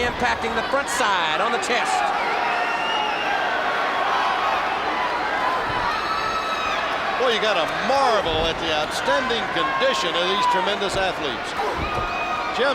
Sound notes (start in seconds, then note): 5.3 crowd clamoring; 5.5 blows thudding; 11.6 wrestlers grunting